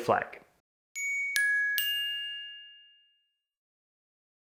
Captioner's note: bell chimes